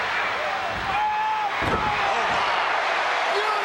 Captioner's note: Crush yelling